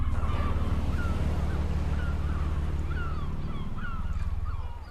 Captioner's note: waves crashing; gulls squawking